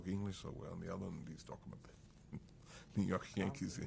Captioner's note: laughs